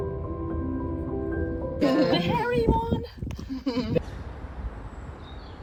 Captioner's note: group voices